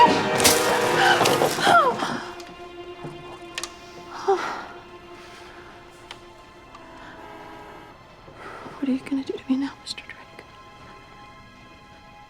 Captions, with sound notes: (grunting) What are you gonna do to me know, Mr. Drake?